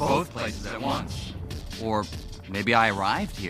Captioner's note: voice echoing